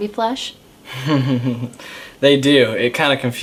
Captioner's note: chuckling